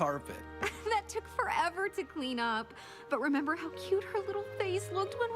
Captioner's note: chuckles